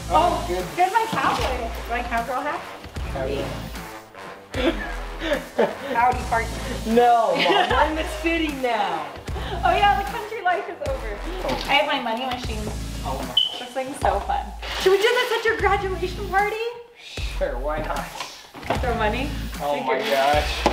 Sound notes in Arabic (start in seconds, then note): 4.5 كلاهما يضحك; 7.3 تضحك